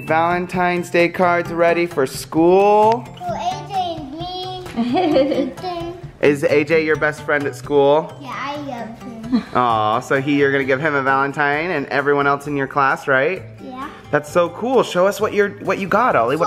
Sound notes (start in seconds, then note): 4.7 man laughs